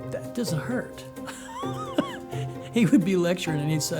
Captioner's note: laughs